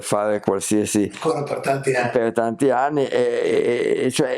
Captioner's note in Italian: voce fuori campo